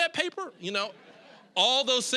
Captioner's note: audience laughing